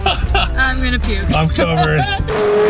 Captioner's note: laughs